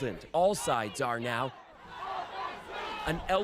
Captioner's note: chanting